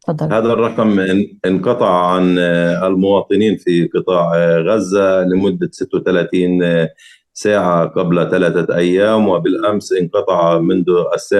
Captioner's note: speaking arabic